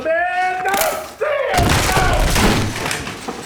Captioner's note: loud crash